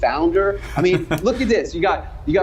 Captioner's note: laughs